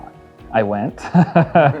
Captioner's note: laughs